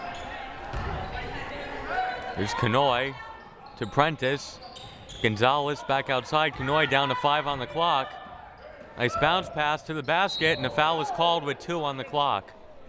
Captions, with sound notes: (crowd murmuring) Here's Kanhoye, to Prentice. Gonzalez back outside, Kanhoye down to five on the clock. Nice bounce pass to the basket, and a foul is called with two on the clock.